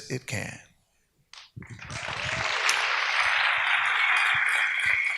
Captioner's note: audience applauds